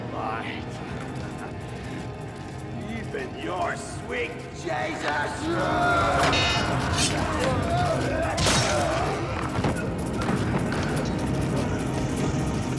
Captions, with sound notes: Even your sweet Jesus! (groans) (scraping thud)